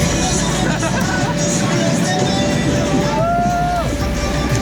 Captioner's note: laughter; cheering